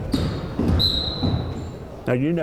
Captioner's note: whistle blowing